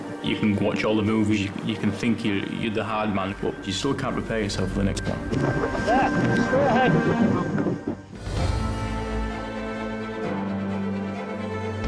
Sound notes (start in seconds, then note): 7.8 boat engine revving; 8.9 dramatic music